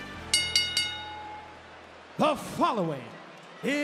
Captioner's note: bell rings